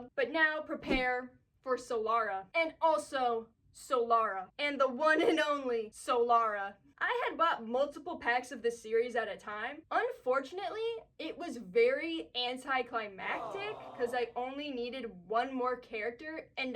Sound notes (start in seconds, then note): 13.2 sad aww